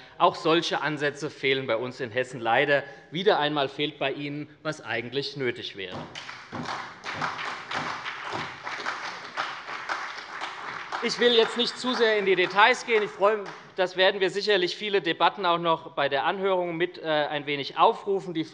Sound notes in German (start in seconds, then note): 6.0 Beifall bei der SPD